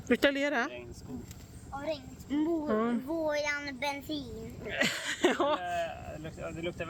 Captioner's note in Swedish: skratt